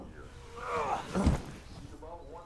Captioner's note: bucky groans